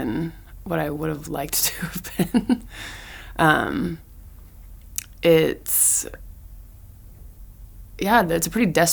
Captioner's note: chuckles